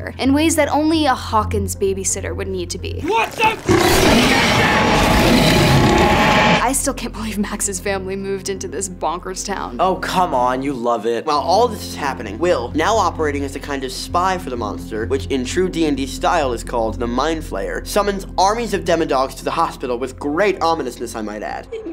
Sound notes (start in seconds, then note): 3.1 screeching; 3.1 roaring